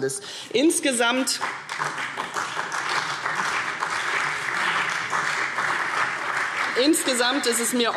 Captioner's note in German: Beifall CDU und BÜNDNIS 90/DIE GRÜNEN